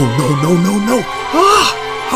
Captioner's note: screams